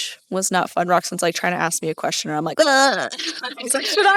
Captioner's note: vomiting sounds